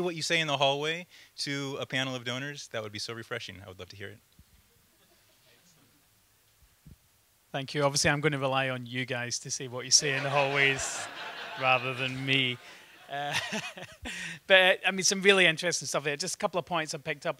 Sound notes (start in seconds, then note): 9.9 laughter